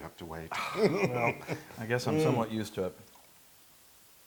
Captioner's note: laugh